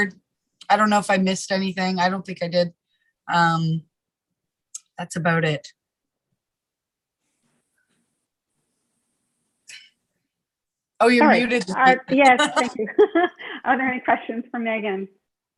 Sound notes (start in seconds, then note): 11.2 laughs